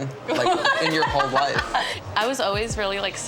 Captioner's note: laughing